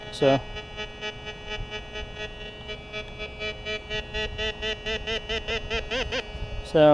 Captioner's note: detector beeps